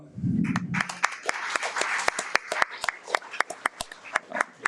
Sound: audience applauds

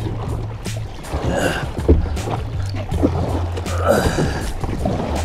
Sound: grunting

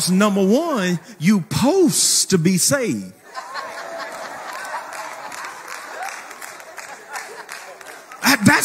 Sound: people laughing and clapping

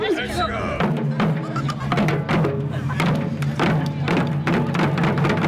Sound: laughing

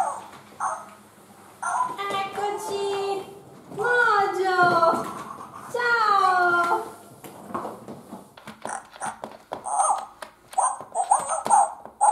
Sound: dog barks and jumps

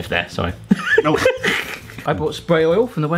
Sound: jaunty music; they laugh

